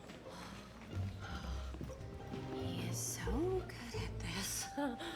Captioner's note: dreamily